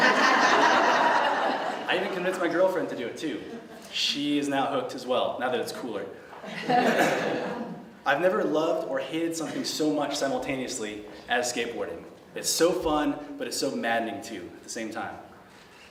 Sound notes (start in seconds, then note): 0.0 laughter; 6.4 laughter